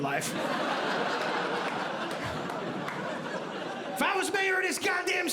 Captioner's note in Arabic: ضحك